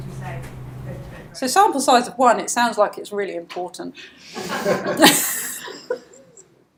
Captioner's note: audience laughs